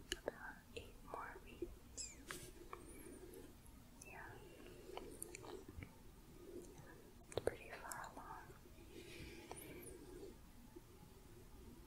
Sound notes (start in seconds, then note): 4.8 gentle shuffling; 8.8 gentle shuffling